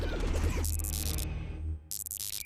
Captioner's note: electronic buzzing